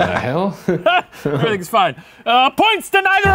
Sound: laughs

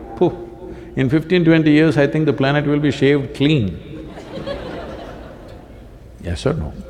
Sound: laughter

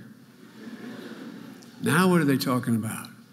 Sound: audience laughing

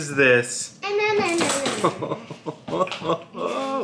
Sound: laughs

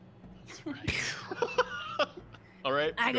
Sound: laughing

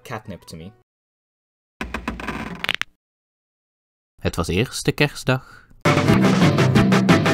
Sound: mic creaks closer

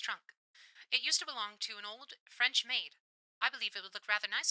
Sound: radio Filter

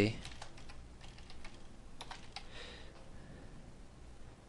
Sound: typing

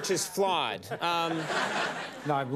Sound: audience laughing

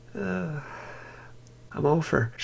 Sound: sigh

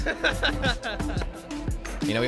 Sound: laughs

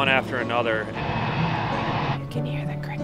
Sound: boat engine roaring

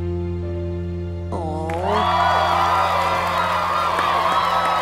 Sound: all cheering

